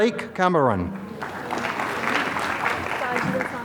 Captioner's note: applause